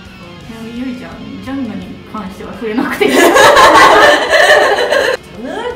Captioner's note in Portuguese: risos